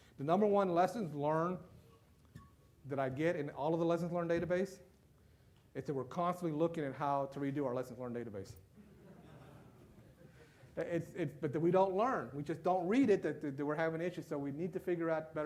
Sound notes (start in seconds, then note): 9.0 loud laughter